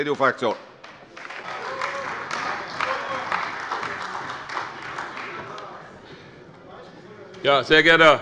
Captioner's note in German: Beifall bei der CDU